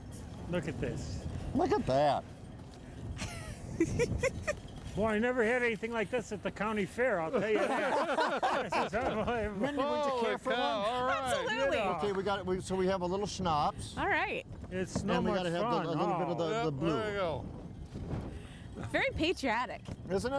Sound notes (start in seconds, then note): 3.2 laughing; 7.3 all laughing